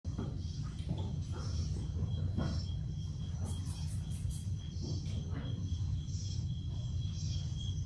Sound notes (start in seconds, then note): 0.1 Texas nightlife noises. - Crickets chirping